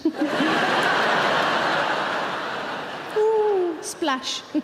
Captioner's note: audience laughing